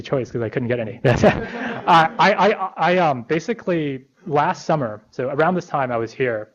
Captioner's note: laughter